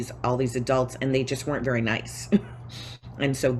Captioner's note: chuckles